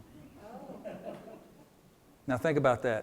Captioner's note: attendee chuckles